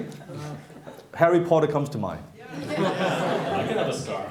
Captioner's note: laughing